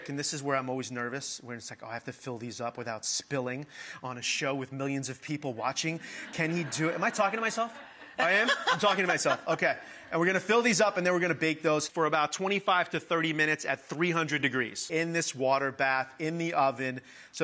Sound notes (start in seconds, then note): 5.9 audience laughing; 8.5 laughing